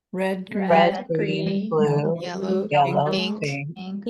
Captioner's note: overlapping chatter